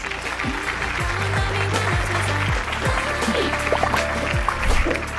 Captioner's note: applause